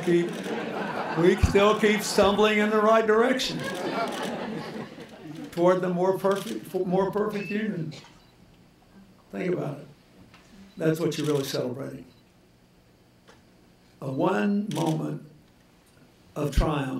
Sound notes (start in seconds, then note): 3.5 laughter